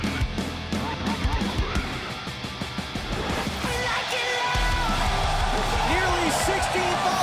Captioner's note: crowd cheering